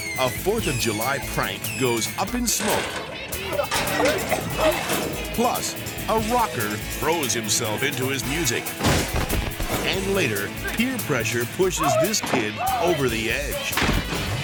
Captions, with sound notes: A 4th of July prank goes up in smoke. (person coughing) Plus, a rocker throws himself into his music. (person thuds) And later, peer pressure pushes this kid over the edge.